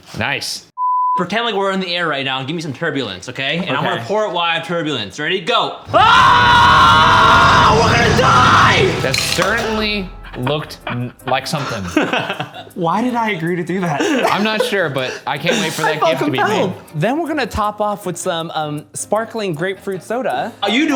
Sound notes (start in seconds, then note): 0.5 screen beeping; 5.9 screaming; 10.8 laughs